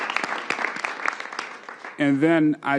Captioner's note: applause